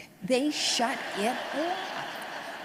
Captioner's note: audience laughs